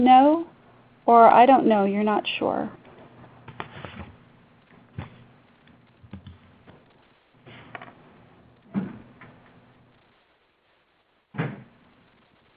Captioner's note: silence from 0:14:16 to 0:14:48